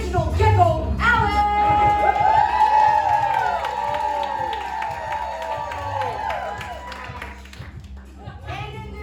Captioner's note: cheers